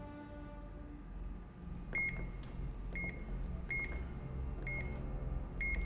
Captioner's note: beeping